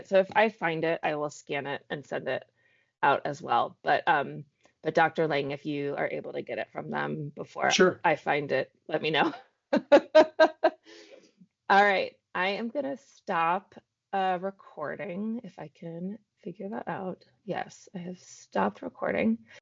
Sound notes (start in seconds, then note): 9.8 laughs